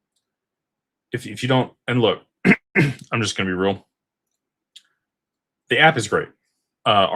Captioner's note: clears throat